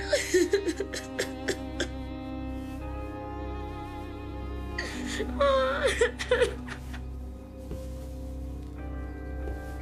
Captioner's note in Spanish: Sollozos